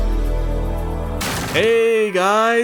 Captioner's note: door smashes open